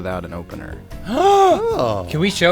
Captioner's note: gasp